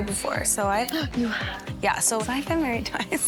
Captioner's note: gasps